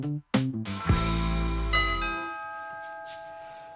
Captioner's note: bell ringing